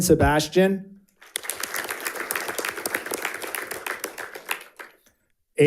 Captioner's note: audience applauding